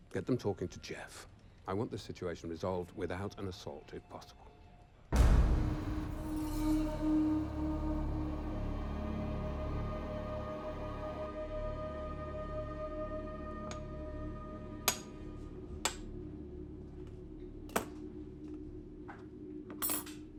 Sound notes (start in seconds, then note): 5.4 dramatic music; 14.9 tapping